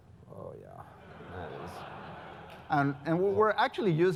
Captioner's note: laugh